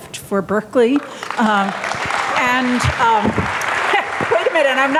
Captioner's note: audience applauding